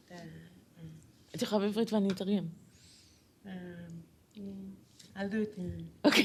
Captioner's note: non-english speech